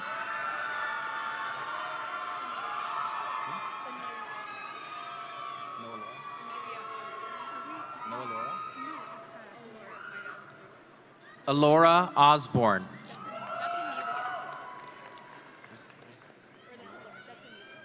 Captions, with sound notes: (audience cheering) Ellora Osborn. (audience cheering)